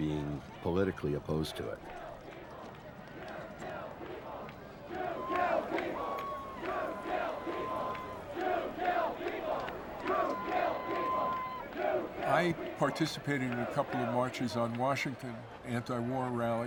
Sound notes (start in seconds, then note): 4.0 chanting; 9.3 chanting continues; 11.1 shouting, clapping